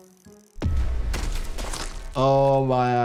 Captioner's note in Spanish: explota la dinamita